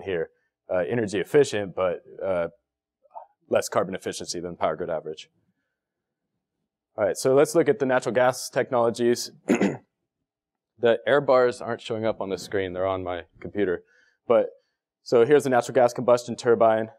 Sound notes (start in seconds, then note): 9.4 cough